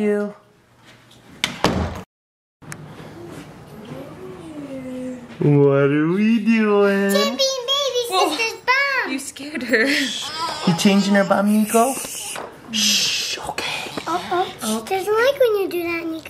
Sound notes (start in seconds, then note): 10.0 baby Crying